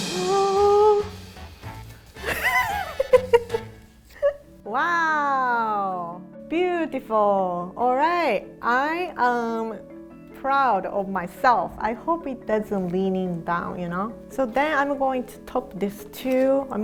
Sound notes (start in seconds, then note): 2.3 laughing